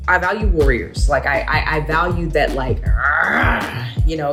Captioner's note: grunts